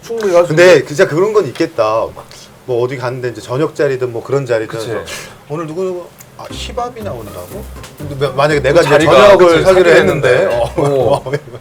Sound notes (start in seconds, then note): 4.9 ssshh